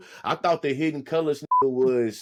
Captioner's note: beep